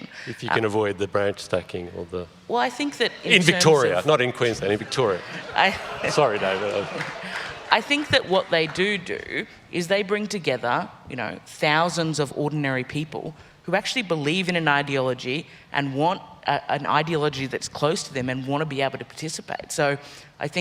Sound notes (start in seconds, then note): 4.5 crowd laughs